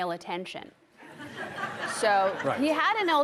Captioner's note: audience laughing